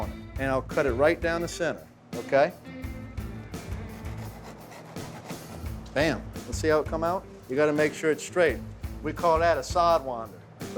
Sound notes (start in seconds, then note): 3.9 slicing sound